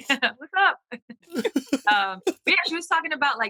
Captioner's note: laughter